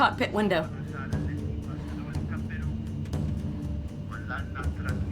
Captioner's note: radio chatter